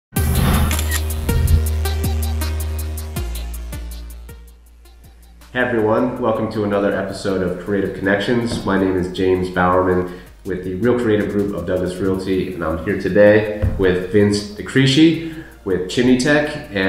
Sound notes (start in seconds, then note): 0.5 upbeat music; 0.6 camera shutter clicking